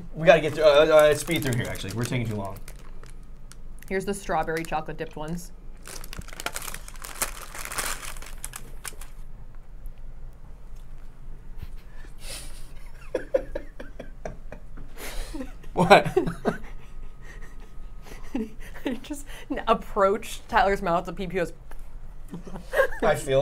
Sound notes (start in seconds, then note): 12.4 laughing